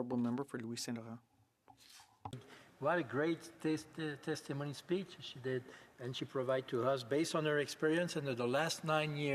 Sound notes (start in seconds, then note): 1.8 speaking French